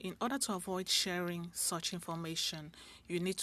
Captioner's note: speaking French